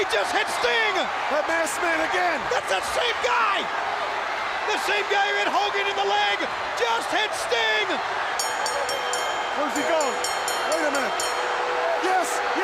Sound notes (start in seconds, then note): 8.3 bell ringing